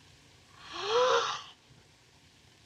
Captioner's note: gasps